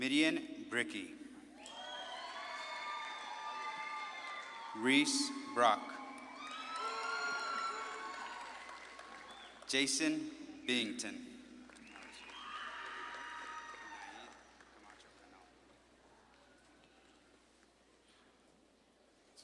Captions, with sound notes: Midian Brickey. (audience claps and cheers) Reese Brock. (audience claps and cheers) Jaysen Byington. (audience claps and cheers)